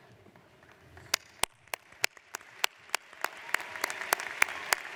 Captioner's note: audience applauds